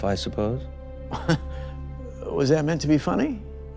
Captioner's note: chuckles